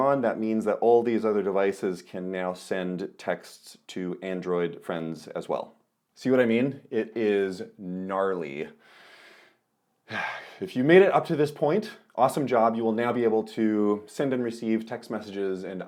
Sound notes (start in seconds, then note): 10.0 exhales